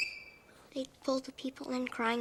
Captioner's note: chalk squeaks